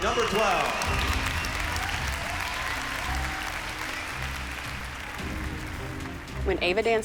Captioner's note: applause